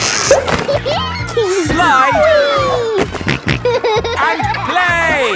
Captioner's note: giggles; snorting